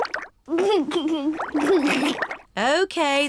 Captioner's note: giggles